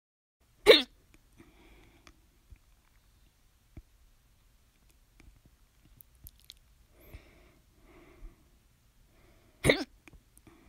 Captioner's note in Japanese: しゃっくりが2回あります/ は食べ過ぎでしゃっくりが2回あります。